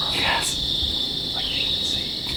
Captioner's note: whispering